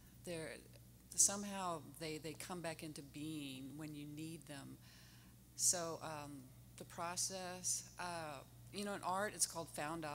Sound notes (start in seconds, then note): none